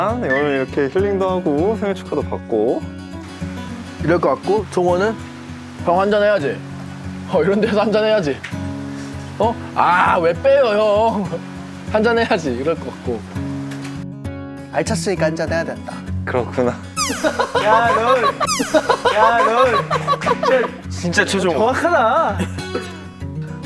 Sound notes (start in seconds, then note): 17.0 everyone bursts into laughter